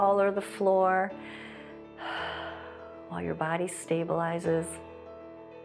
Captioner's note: inhales and exhales